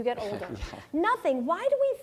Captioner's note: laugh